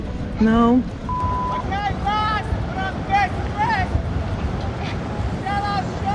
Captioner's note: beep